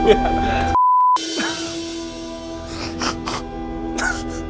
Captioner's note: laughing